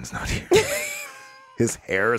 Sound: all laughs

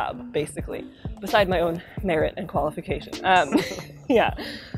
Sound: laughs

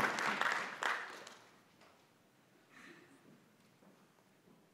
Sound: applause

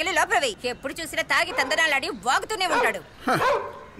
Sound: dog barks

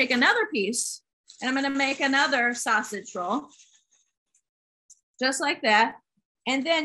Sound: tissue paper crinkling

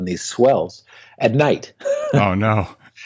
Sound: laughs

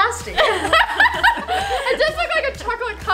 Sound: laughing

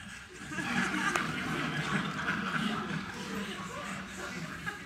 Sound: audience laughing

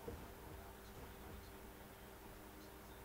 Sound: radio News on faintly

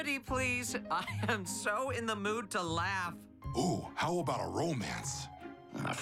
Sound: chuckling

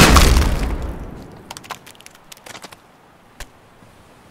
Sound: organs splatter on ground; splat

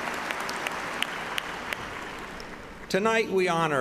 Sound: applause

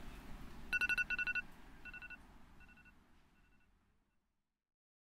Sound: iPhone alarm rings, city street sounds fade out

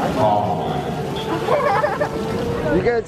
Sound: fountain; laughing

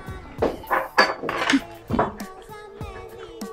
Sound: laughs in Lithuanian

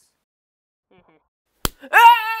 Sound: smack; screaming

